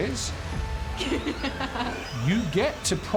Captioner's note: laughs